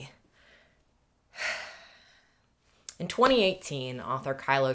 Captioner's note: sigh